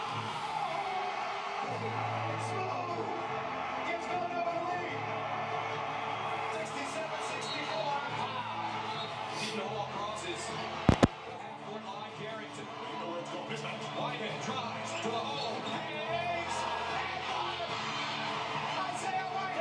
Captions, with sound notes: (cheering and yelling) Smooth, you got to believe. 67, 64, how? No one crosses the half court line. (announcers yelling) (cheering)